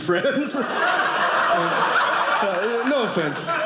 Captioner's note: audience laughing